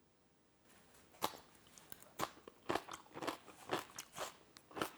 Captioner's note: kimchi crunching